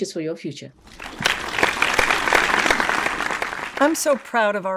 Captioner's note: audience applauds